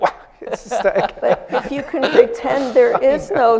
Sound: laughter

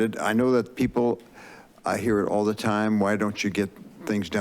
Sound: inhales

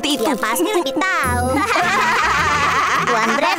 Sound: laughs loudly

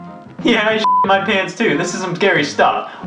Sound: beep

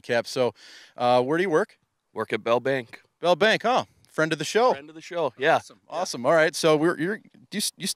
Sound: none

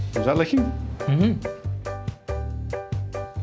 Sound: muttering

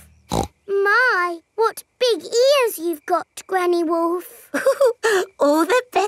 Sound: snorts; chuckles

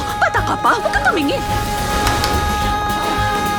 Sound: barks

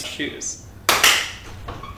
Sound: clapclap

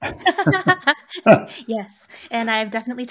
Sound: laughing

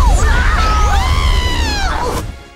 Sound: both screaming

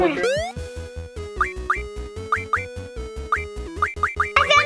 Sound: game sounds

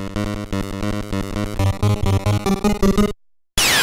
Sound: game audio

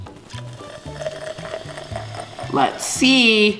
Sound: fizzing

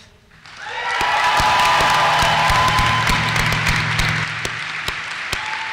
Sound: applause

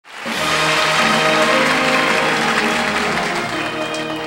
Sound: audience applauds

